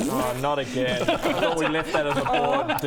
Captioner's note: pffffffp; pftth